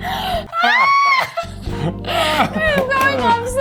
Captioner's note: squealing